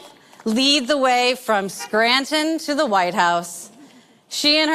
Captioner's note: horns honking